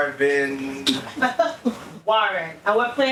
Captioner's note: laughing